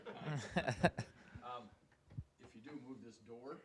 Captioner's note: audience laughing